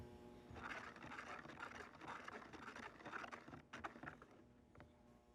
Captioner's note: liquid sloshing